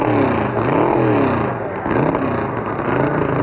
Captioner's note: engine revving